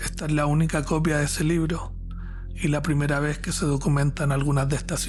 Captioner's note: narrator speaking Spanish